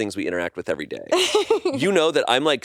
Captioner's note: laughs